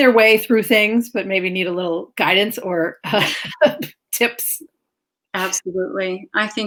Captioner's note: laughs